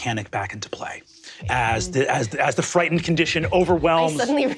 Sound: heartbeat pulsing

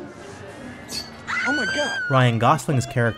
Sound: screaming

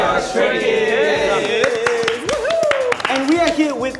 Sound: members clapping

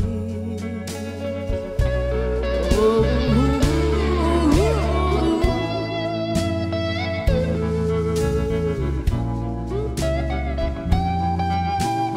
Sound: vocalizing

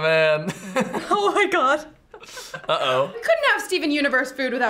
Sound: laughs

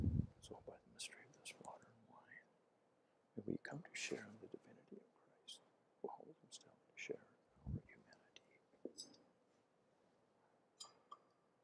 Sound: priest whispering

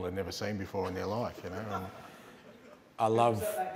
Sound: laughter

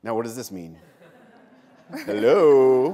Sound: laughter

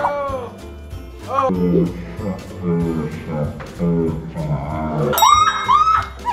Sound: slow motion whooshing and cheering; triumphant bell sound

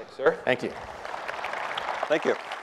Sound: applause

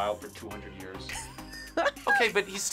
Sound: React laughs

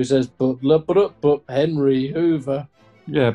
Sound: hums tune

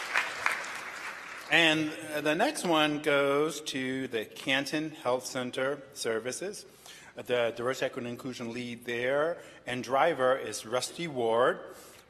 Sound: applause

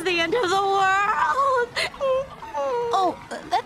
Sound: pEriDoOt cries into Sleven's arm. A truly beautiful scene

